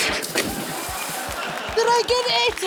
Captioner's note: laughter